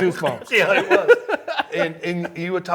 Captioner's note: laughing